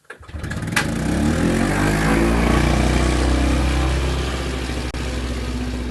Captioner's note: vvvrrrrooooommmmm - a - rum rum rum